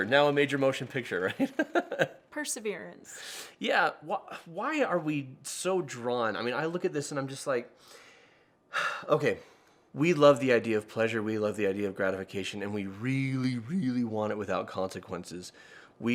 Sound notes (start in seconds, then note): 1.4 laughs; 8.7 sighs